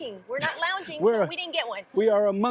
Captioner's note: laughs